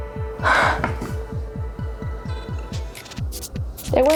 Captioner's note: sighs